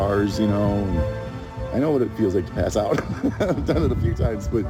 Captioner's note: laughs